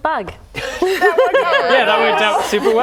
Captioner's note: laughing